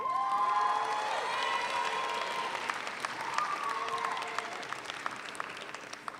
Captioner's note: audience cheers; audience applauds